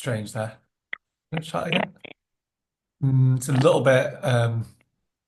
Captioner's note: static